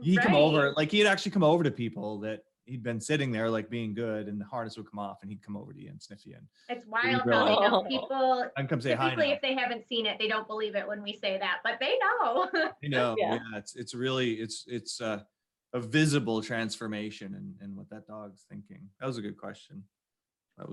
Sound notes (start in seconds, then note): 12.2 laughs